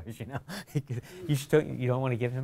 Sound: chuckling

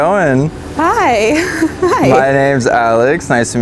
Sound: laughs

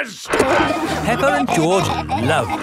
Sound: peppa and george laughing

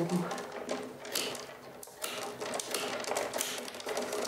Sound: snap

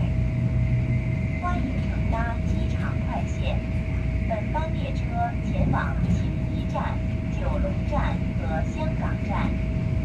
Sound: Mandarin

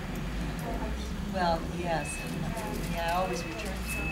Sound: group chatter

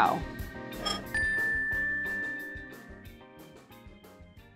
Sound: bell dings

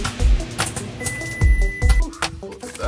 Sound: microwave whirring; upbeat music; microwave timer beeps

